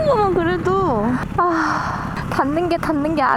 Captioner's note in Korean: 깊은 한숨 ㅋㅋㅋㅋ